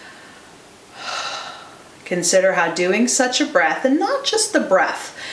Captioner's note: exhales